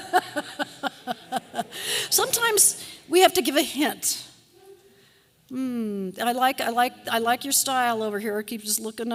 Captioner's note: laughter